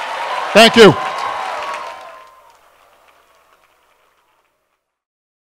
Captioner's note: applause